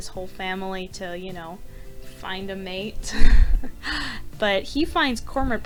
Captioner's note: chuckling